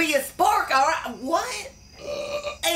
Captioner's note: burps